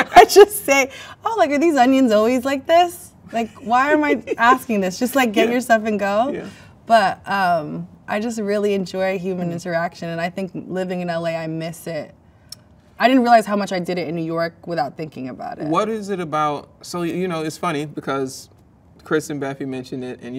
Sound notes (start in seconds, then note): 0.0 both laugh; 3.3 man laughs